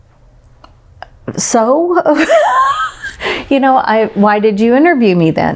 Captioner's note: laughs